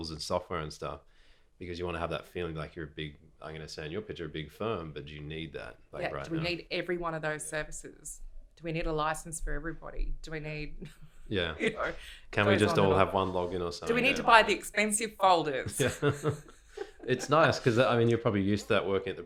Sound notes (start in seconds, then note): 11.4 laughs; 15.7 both laughing